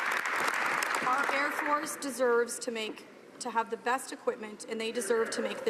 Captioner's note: some Applause